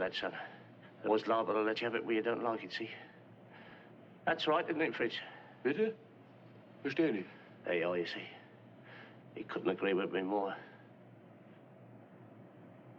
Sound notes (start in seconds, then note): 6.1 German